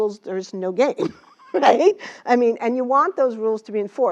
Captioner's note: laugh